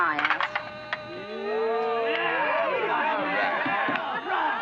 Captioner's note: truckers cheering